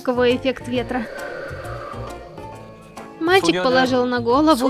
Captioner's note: A sound effect of wind